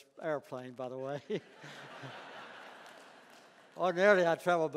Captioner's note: laughter